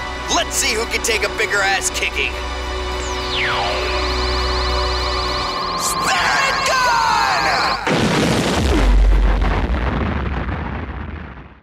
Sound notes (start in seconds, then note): 2.7 dramatic music; 7.8 explosion booming